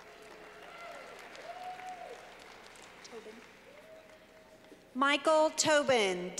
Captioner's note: clapping